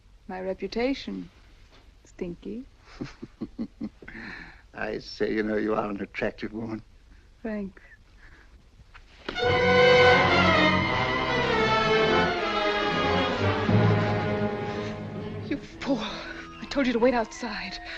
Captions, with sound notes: My reputation, Stinky. I say, you know you are an attractive woman. Thanks. [thud] [dramatic music] You fool. I told you to wait outside!